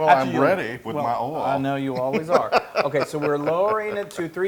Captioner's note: laugh